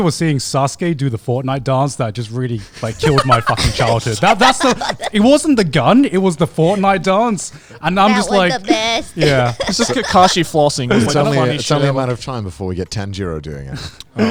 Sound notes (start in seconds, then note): 9.8 laughs